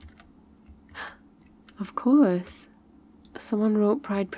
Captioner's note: gasp